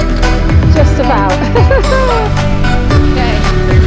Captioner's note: giggles